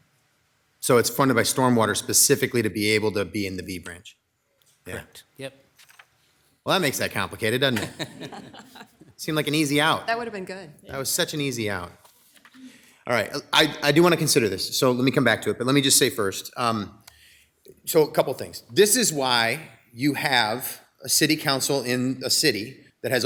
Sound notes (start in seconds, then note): 7.6 people laughing